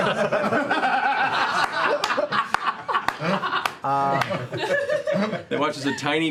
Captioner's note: laughter